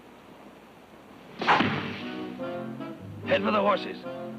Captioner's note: arrow thunks